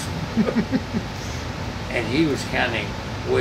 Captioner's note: laughs